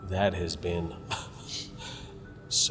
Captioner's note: Pastor Luis chuckles